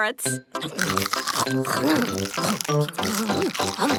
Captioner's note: crunch